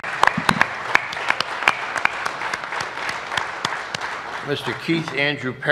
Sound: applause

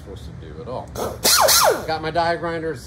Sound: grinder buzzing

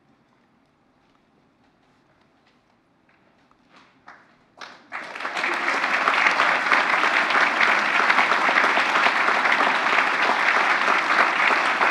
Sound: applause

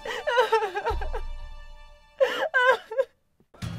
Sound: crying

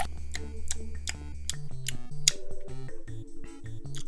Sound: smacking lips

